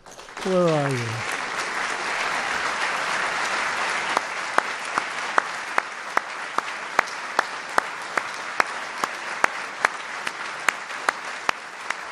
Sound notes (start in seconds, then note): 2.4 group applause